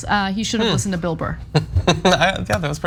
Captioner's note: laugh